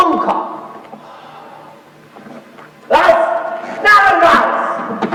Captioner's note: sighs